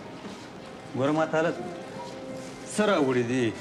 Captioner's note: speaks Pashto